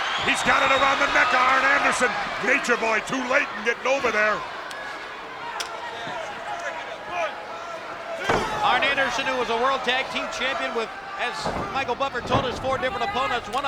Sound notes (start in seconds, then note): 4.9 blows thudding; 4.9 hands thudding